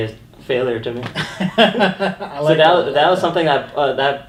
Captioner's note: laughing